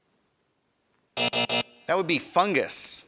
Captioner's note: buzzer buzzing